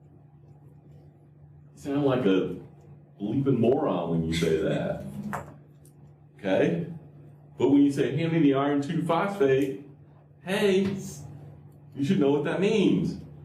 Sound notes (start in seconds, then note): 4.4 laughter